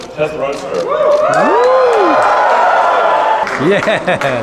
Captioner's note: audience cheers